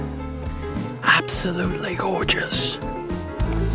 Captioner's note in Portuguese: Sotaque britânico